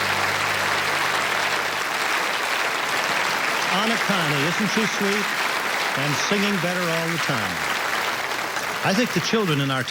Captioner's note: applause